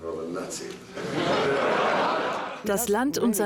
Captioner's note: audience laughs